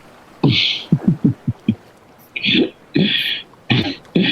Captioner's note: laughs